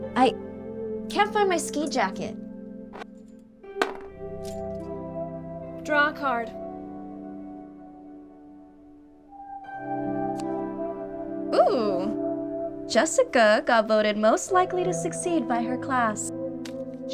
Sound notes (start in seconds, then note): 3.8 die rattles; 3.9 gentle music